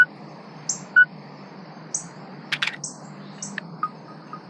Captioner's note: Envision beeps and clicks